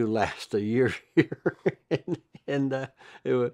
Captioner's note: laughs